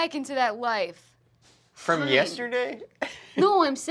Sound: chuckling

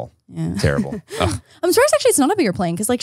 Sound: laughs

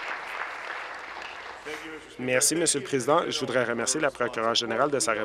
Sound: applause

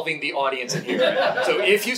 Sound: audience laughing

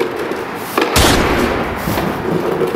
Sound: gunshot

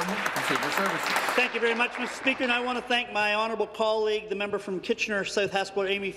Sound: applause

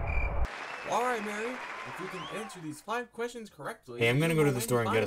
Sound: on TV

